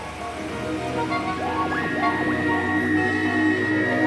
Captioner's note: wavering high-pitched sounds